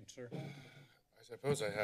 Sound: exhales

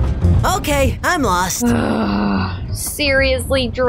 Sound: groans

